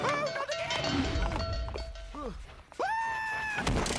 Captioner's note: cow bell clanging